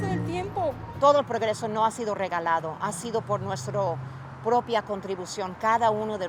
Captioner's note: speaking in foreign language